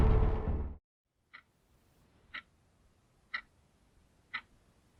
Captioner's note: clock ticking